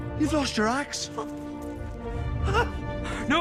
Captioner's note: whimpers